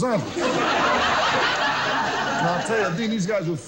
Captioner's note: audience loudly laughs